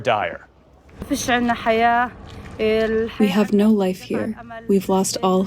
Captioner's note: through translator